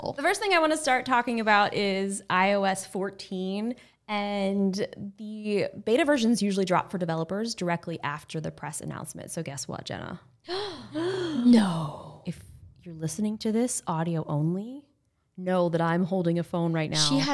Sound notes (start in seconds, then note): 10.5 gasping